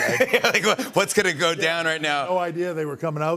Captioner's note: laughs